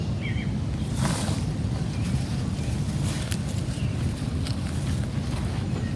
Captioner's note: birds chirping; footsteps crunching